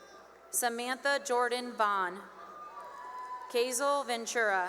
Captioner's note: cheering; cheering